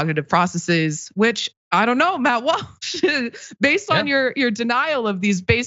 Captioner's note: laugh